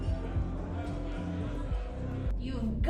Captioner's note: crowd chattering